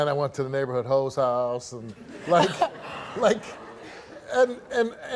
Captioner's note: audience laughs